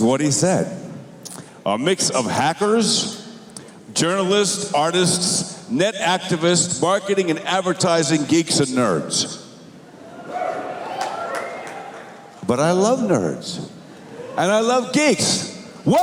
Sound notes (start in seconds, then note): 10.0 cheers